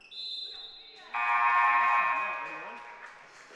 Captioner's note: buzzer